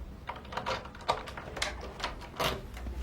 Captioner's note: door unlocking